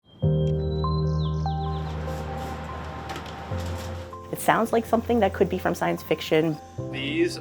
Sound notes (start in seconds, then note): 0.0 birds chirping; 0.0 gentle music